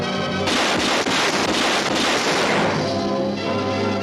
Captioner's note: gunshots; suspenseful music